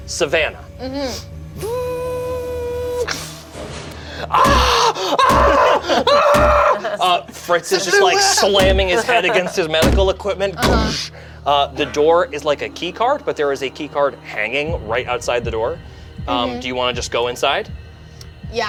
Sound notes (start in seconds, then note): 1.8 lift whirs; 4.2 screams; 4.6 bangs on window